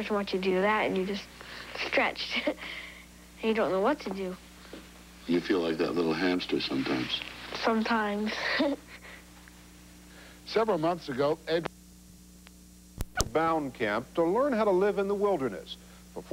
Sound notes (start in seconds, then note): 8.2 giggles